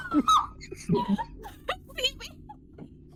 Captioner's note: laughing